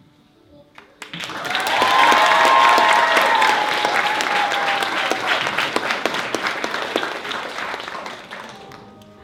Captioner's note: applause